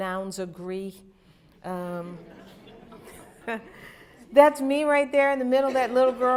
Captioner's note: laughter